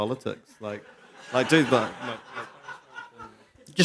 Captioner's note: laughter